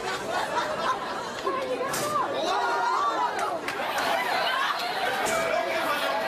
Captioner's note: laugh